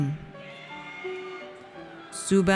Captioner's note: audience cheers